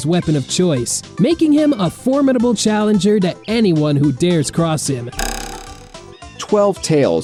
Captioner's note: slingshot noise